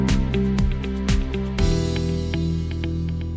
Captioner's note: cheers and applause; up-tempo music playing